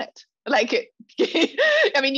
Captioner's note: laughs